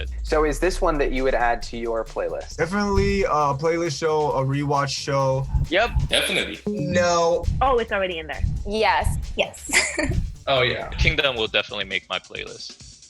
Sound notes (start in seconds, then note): 10.5 chuckles